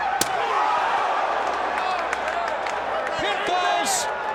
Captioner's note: crowd groaning